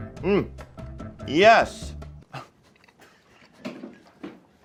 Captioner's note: laughs